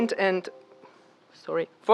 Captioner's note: computer chime